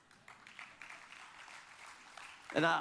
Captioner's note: audience applauds